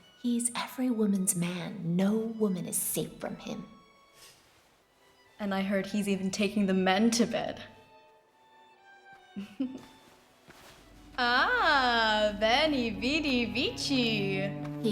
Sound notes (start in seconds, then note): 9.3 giggles